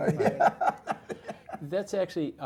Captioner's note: laugh